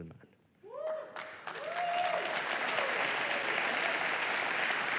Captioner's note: applause